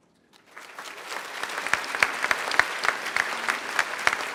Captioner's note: applause